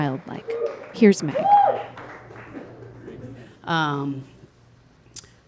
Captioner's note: audience cheering